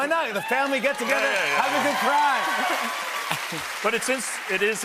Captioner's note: cheers and applause